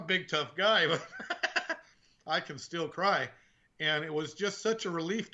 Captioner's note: laughing